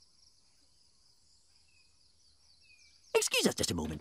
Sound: birds chirping

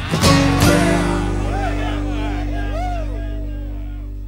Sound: crowd cheering

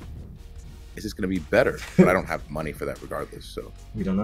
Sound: laugh

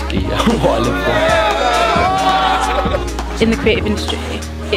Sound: people laughing and yelling

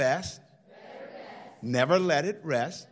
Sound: crowd

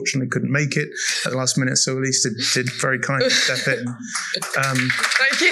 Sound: applause

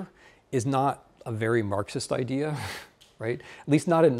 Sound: chuckling

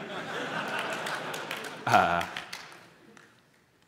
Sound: laughter, applause

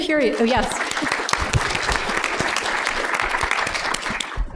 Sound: applause

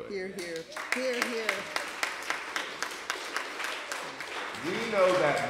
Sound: applause

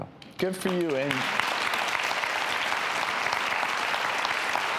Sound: applause

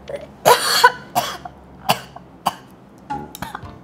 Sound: cough

